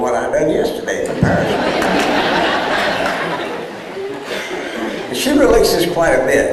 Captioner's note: laughter